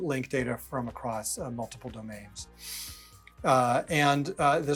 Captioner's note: sharply inhales